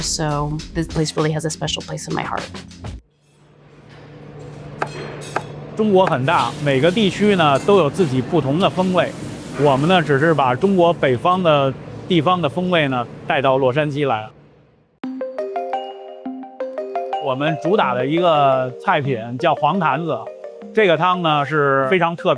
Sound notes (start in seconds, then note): 4.8 knife thudding; 5.9 speaking in foreign language